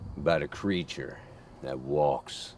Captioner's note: none